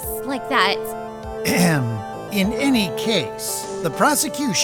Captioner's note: ahem